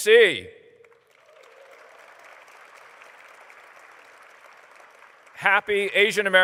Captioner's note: applause